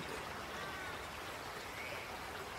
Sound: birds chirps

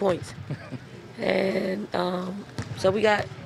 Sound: reporter chuckles

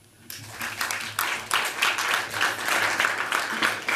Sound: applause

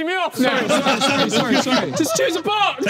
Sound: everyone laughing

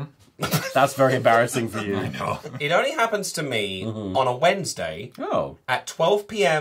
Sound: laughter

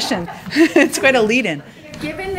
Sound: laughter

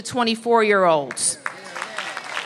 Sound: applause

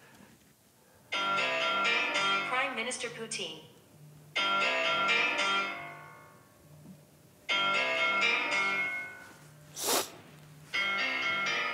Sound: phone rings

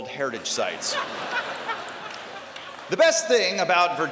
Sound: laughter

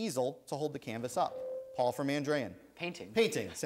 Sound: ding

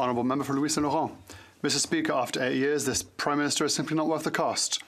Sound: speaking French

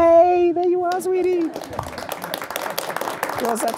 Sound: applause

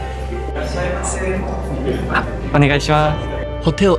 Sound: staff & speak in japanese

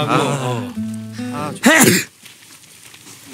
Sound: sneeze of understanding

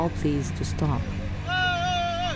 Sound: yell

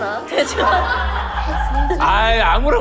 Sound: laughing

